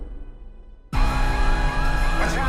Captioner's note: alarm blarring